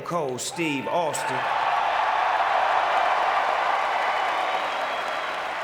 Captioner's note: audience cheering